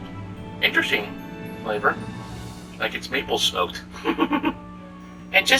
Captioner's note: mumbled giggle